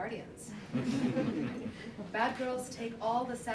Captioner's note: laughter